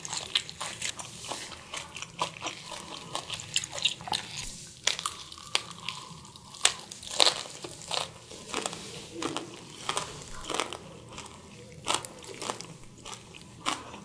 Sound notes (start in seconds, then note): 6.8 crunch Crunch